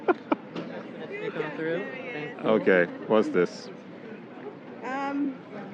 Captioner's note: laughter